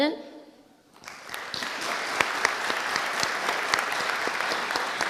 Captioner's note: audience applauding